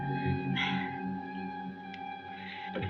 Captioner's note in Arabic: تلهث